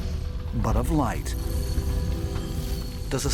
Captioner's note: shimmering sound